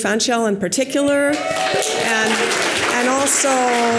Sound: audience applause

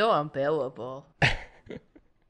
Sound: laughter

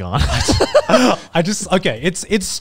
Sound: everyone laughs

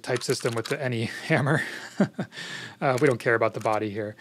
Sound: laughs

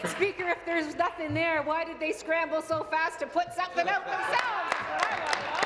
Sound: applause

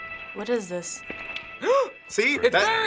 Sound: gasps

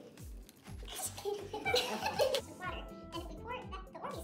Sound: laughter

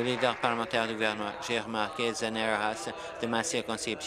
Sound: applause

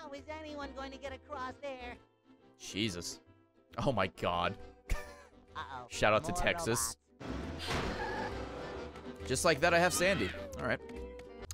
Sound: laughs

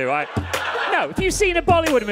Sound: audience laughing

